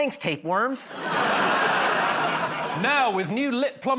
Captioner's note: laughter